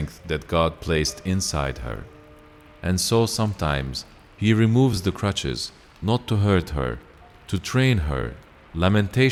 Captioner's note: train